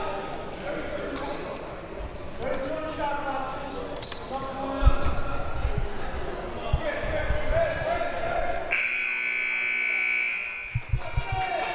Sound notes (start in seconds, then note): 8.7 buzzer